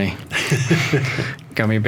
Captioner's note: all laughing